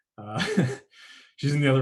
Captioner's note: laughs